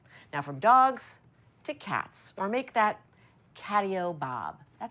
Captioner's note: none